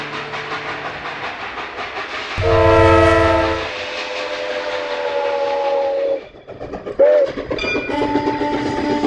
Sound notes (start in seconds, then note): 2.4 train horn blaring